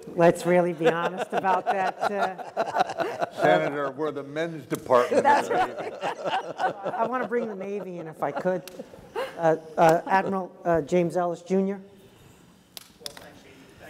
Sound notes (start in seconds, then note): 0.7 laugh